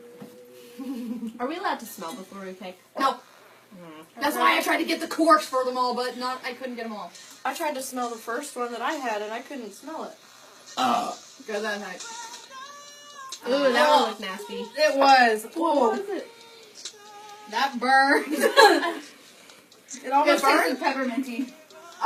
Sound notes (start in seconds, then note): 10.8 belched